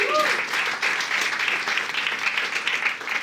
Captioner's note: audience cheering